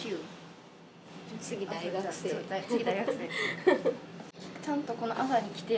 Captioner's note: laughs